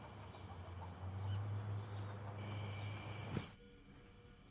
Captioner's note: traffic droning